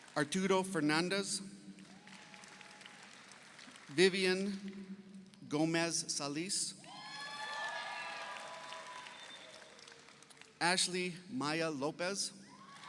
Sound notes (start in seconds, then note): 6.8 audience cheers; 7.0 audience applauds; 12.4 audience cheers; 12.5 audience applauds